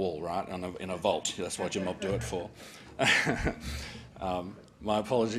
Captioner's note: laughs